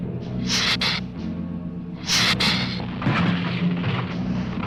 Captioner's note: lizard hissing